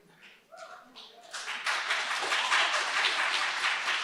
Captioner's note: audience applauds